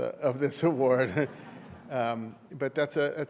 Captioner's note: laughter